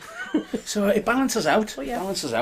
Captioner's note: chuckling